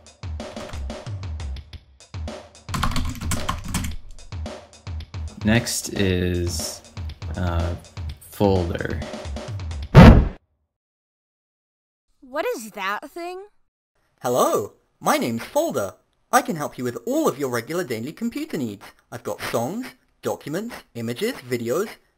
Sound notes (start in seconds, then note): 0.2 keyboard Typing; 10.0 bitcrushed noise